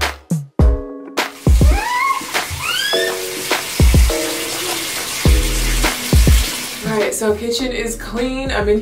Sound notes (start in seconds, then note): 1.6 squealing; 3.3 water running